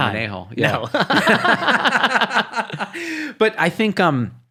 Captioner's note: laughing